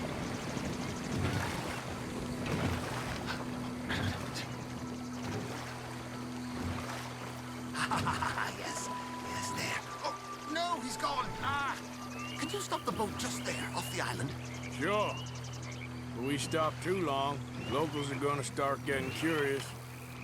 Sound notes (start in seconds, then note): 7.7 laughs; 11.2 grunts